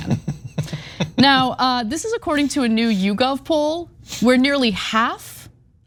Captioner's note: laugh